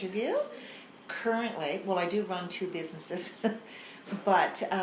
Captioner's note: laughs